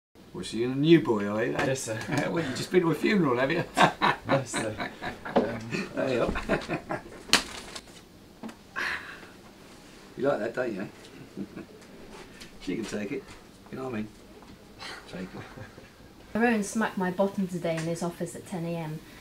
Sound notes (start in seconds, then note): 3.4 laugh; 7.3 smack; 14.8 laugh